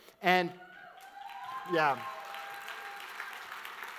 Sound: audience cheers

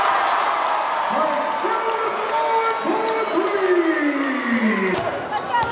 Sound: crowd cheers; announcer yells

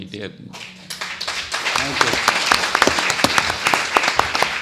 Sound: audience applauds

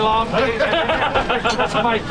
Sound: laughter

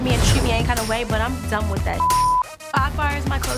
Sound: beep sound

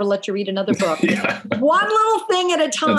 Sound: laughs

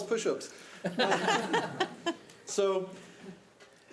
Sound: audience laughing

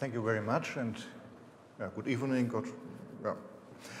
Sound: none

